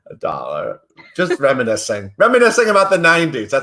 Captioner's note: laughs